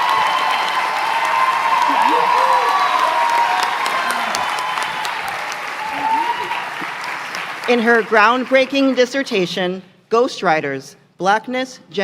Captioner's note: cheering; applause